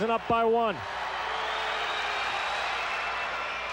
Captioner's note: loud cheering